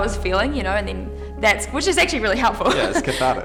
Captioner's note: laughs